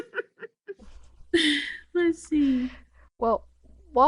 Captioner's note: laughs